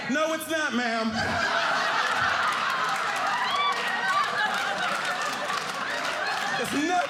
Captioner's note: audience laughing